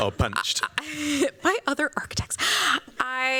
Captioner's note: laughs